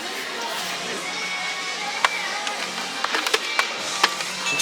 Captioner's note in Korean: 뒤적뒤적